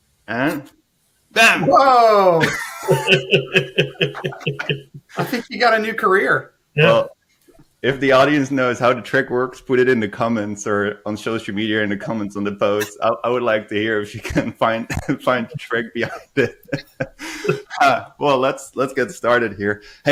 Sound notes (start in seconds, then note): 2.1 laughing